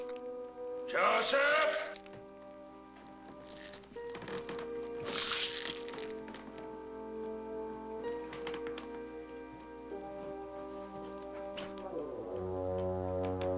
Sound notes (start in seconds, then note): 4.8 glass crunching